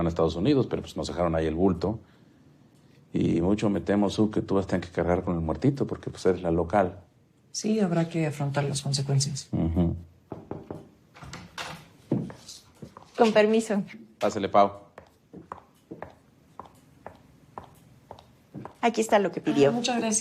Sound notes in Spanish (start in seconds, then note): 10.2 Toques en la puerta